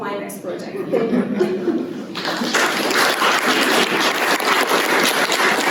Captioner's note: applause